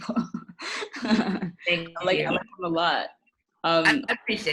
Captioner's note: distorted audio